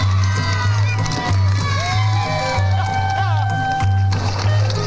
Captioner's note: horse hooves clopping; gentle upbeat music